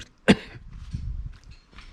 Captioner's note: cough